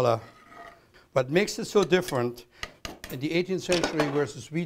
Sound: chopping

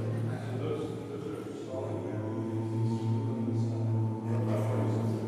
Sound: voices resonating

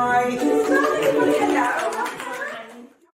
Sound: applause

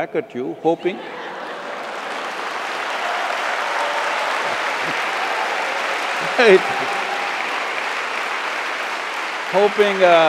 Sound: laughter/Applause

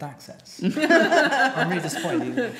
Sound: group laughing

